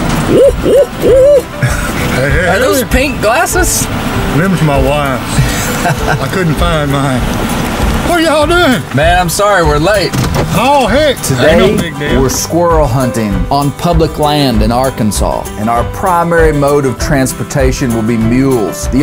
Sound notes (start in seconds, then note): 5.4 laughs